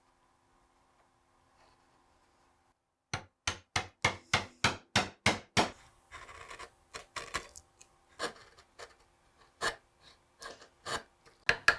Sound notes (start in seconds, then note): 3.1 hammer tapping; 6.1 chisel scraping